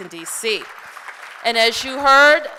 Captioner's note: applause